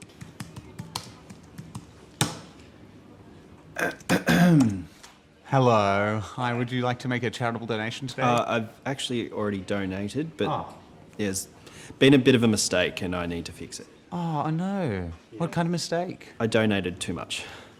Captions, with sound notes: (Ron coughs) - Hello, hi. Would you like to make a charitable donation today? - I've actually already donated, but, - Ah! - Yes. Been a bit of a mistake, and I need to fix it. - Oh no, what kind of mistake? - I donated too much.